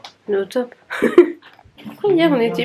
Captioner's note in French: rires